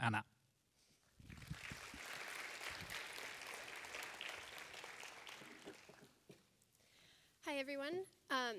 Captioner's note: applause